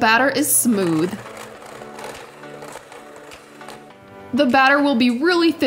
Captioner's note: motor whirring